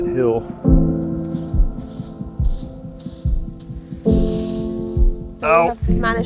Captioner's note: calm music; leaves rustling